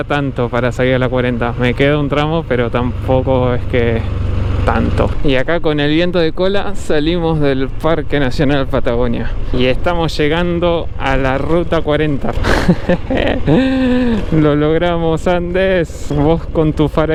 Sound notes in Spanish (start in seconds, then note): 12.4 risas